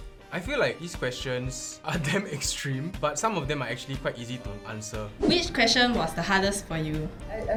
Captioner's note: none